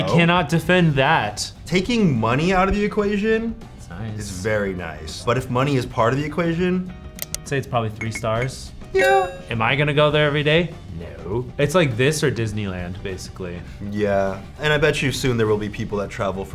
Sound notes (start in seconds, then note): 7.1 mouse clicking; 8.0 tone chimes